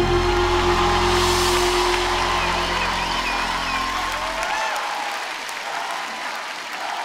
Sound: aplausos

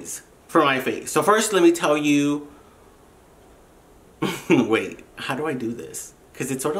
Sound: laughs

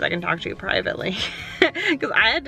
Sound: laughing

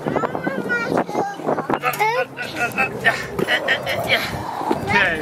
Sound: dad grunts

